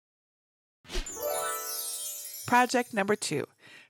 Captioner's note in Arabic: لهجة متفائلة